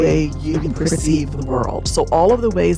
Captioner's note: echoing